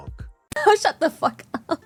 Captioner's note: laughs